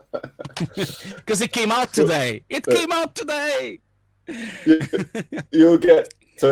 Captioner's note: laughing